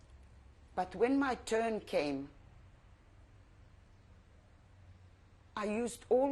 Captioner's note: pauses for 3 seconds; pauses for 3 seconds